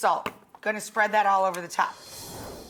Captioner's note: salt clunks